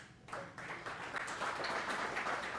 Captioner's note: applause